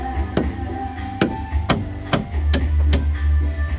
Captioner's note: knife thuds